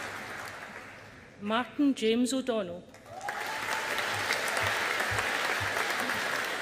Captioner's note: audience applauding